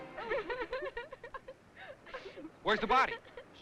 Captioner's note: girls crying